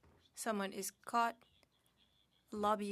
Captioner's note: speaking French